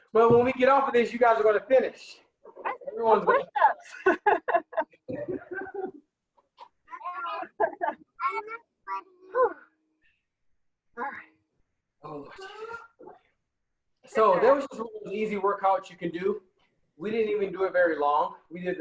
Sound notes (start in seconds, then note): 6.4 laughing